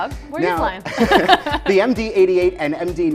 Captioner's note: both chuckles